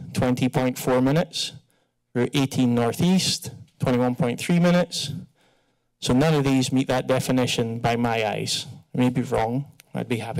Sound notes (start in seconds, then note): none